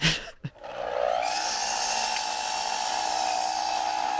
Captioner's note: saw whirring